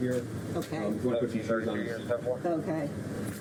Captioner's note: radio chatter